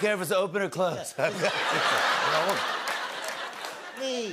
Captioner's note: laughter